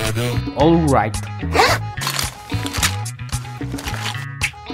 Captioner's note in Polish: szelest plecaka